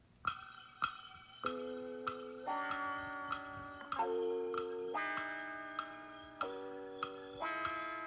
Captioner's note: clock ticking